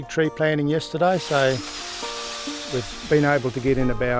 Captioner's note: drill whirring